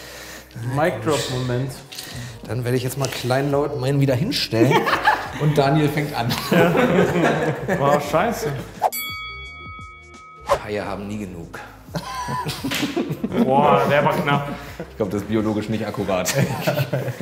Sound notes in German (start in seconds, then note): 8.6 woosh; 8.9 Boxring-Glocke; 10.4 woosh